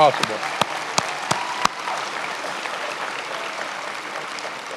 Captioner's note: attendees applauding